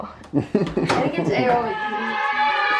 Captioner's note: laughs; kids cheering